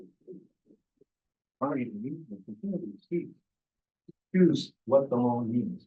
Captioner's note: presenter speaking faintly off mic